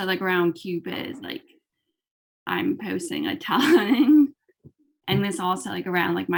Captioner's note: laughs